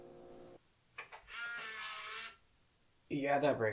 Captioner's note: electric motor